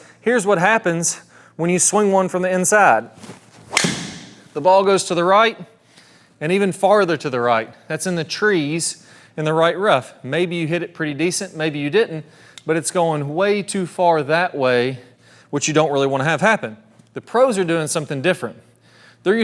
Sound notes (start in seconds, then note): 3.2 club thwacks